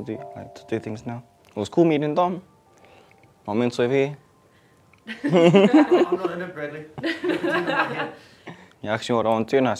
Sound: laughs

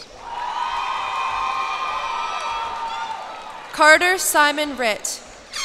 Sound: cheers and applause

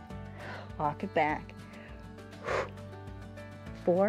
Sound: exhales

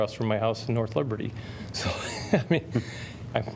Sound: laughter

